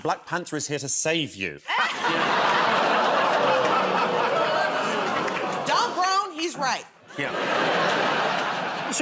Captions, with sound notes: Black Panther is here to save you. [ Laughter ] [ Audience gasps, groans ] -Don't groan, he's right. -Yeah. [ Laughter ]